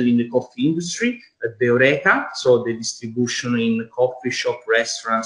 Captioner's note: foreign language